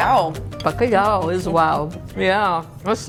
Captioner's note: both speaking foreign language; speaking foreign language